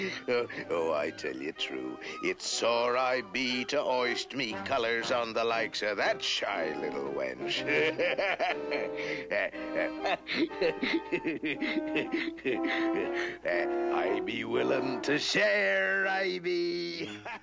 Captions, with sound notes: Oh, I tell you true, it's sore I be to hoist me colors on the likes of that shy little wench. [chuckling] I be willing to share, I be!